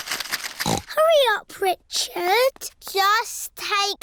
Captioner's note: snorts